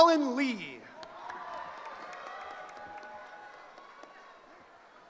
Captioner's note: cheering